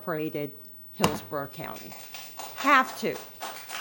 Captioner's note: applause